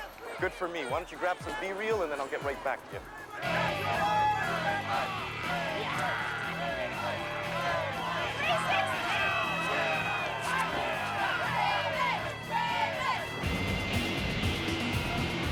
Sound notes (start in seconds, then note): 10.6 shouting